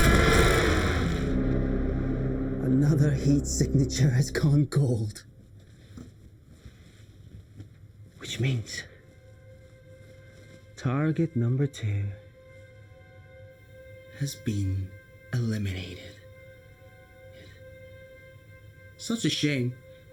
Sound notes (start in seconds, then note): 0.0 shark growling; 0.0 Adrian groaning; 0.0 dramatic music; 0.0 Adrian screaming; 7.5 ominous music